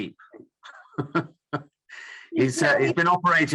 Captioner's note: laughs